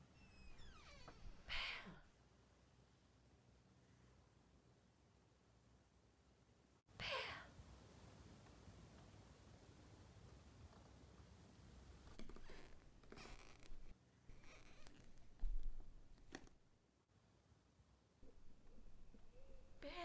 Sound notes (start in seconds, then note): 2.5 whisper